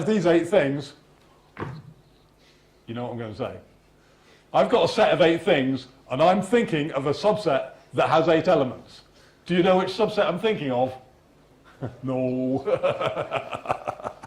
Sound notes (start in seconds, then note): 11.6 laughs